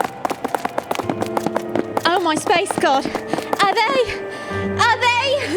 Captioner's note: out of breath